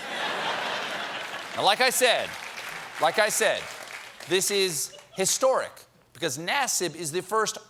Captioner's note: laughter